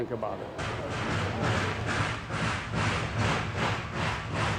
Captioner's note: train engine revs